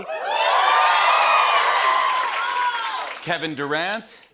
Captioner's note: cheers and applause